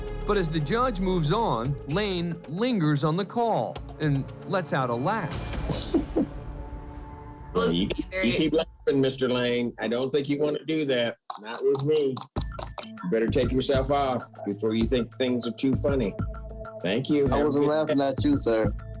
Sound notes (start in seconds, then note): 5.6 laughs